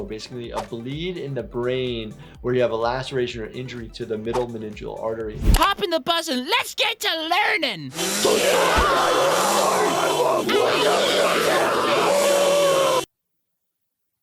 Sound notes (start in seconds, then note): 7.9 buzz honking; 7.9 people clamoring